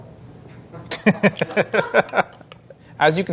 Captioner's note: laughing